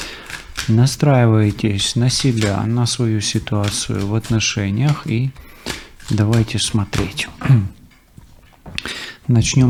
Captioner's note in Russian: откашливается